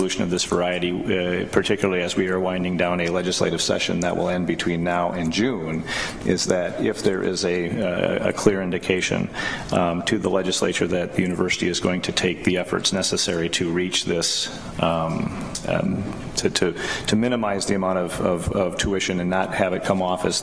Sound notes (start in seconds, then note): none